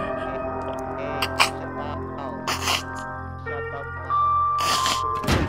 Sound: choking

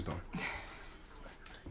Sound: Efosa laughs

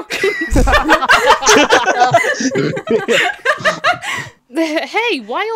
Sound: laughter

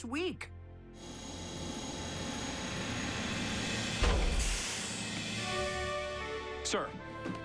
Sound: elevator humming

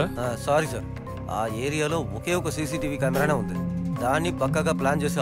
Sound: phone vibrating

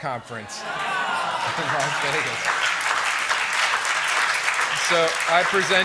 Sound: applause

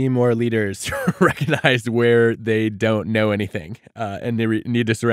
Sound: laughing

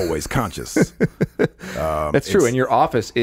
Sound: laughing

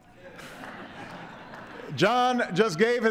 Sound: laughter

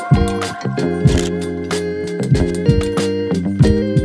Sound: camera shutter clicks

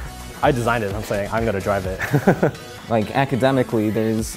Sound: laughs

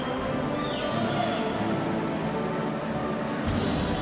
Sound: cheers and applause

